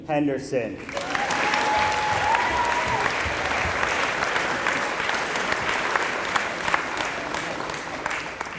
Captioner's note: applause